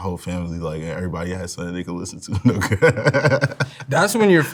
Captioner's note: laughs